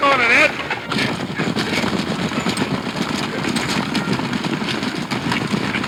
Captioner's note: stagecoach wheels rumbling